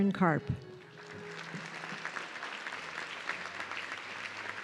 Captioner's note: audience clapping